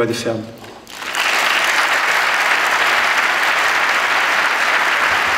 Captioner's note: applause